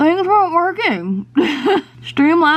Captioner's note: chuckles